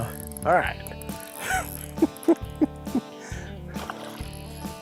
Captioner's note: chuckling